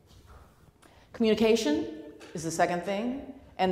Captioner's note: none